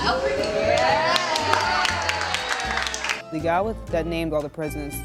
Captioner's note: applauding